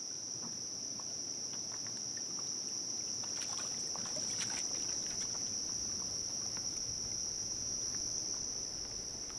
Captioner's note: sounds of insects, water